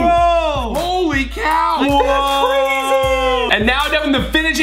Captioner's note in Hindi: चिल्लाना